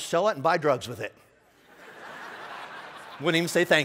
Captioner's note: laughing